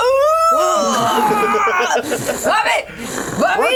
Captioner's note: Jasmine grunting